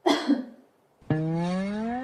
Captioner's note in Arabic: سعال